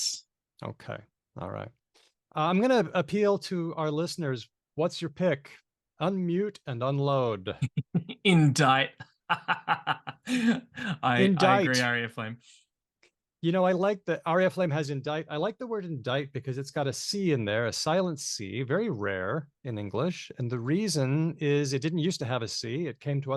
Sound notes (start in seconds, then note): 9.2 laughs